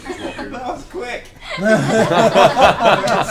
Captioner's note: all laugh